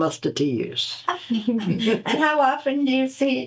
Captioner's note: laughter